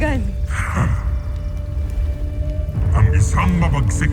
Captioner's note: tyrus scoffs